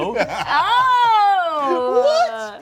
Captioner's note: laughs